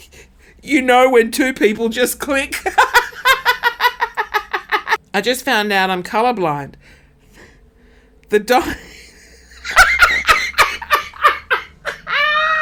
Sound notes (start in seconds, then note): 2.7 laughing; 8.8 laughing